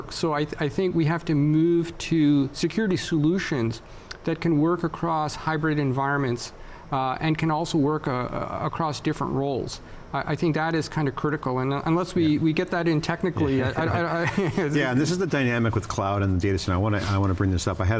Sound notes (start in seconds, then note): 13.4 laughs